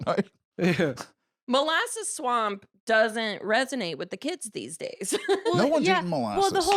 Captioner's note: laughs